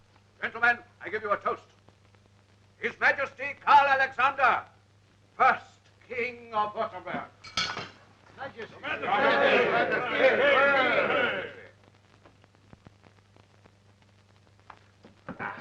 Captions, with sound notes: Gentlemen I give you a toast, His Majesty Karl Alexander first king of Wurttemberg. (bell ringing) - Your Majesty. (group chattering)